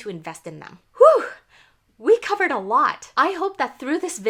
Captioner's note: whoo